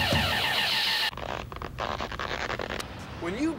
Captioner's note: creaking